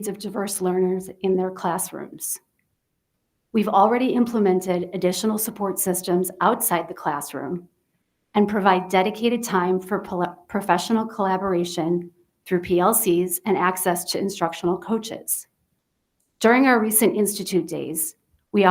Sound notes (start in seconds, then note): none